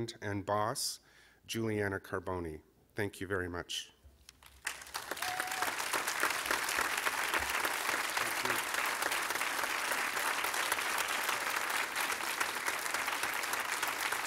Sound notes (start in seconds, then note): 4.4 applause; 7.6 cheers and applause